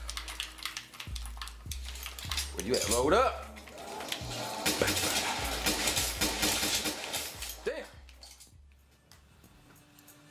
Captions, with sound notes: You better load up. (gun firing)